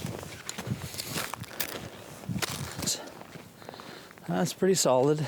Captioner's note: snow crunching